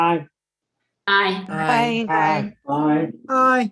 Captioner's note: multiple ayes